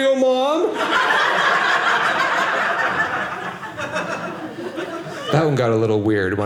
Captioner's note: audience laughing